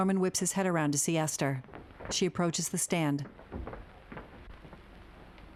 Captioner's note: footsteps shuffling